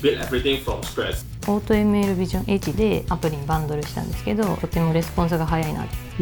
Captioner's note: non-english speech